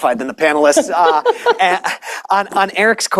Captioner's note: laughter